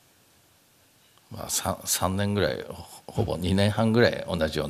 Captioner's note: speaking japanese